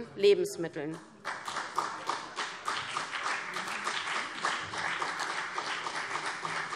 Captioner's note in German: Beifall CDU und BÜNDNIS 90/DIE GRÜNEN